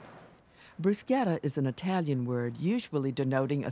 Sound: voiceover

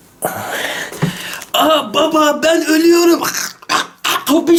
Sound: choking sounds

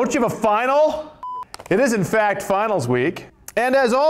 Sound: beep

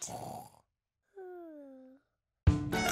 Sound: snores

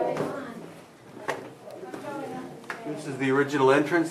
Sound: tourists chatting

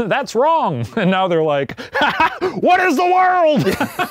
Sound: laughs; both laughing

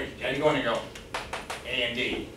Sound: knocks On Board

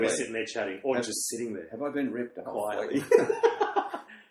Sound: both laugh

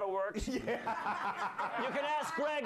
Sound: laughter

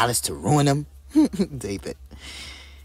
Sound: giggles

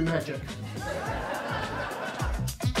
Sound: audience laughs

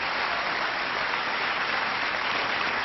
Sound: applause

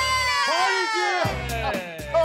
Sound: laughs

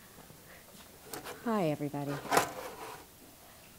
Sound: scraping metal

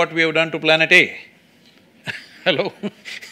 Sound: laughs

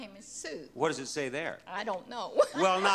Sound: laughs

